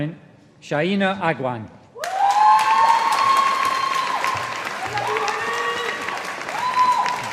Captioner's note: audience applauding